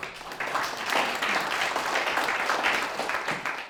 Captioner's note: applause